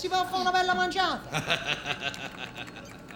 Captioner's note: laughter